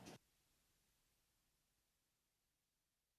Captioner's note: silence